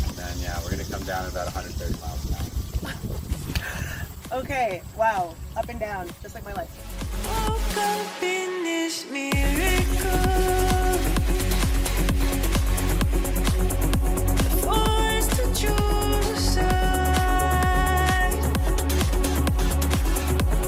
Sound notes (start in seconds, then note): 2.8 laughs; 7.3 electronic dance music plays